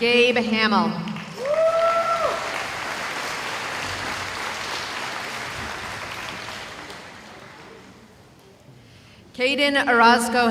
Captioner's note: cheering